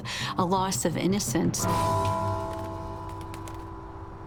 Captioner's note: bells tolling